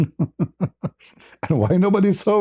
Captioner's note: ketawa